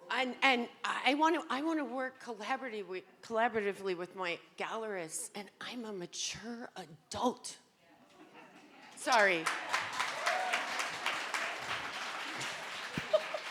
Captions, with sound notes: And I wanna work collaboratively with my gallerists and I'm a mature adult. Sorry. (audience applauding)